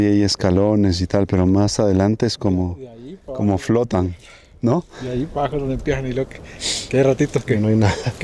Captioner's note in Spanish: resoplido